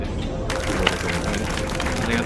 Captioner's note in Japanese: 拍手